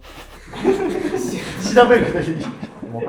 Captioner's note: laughing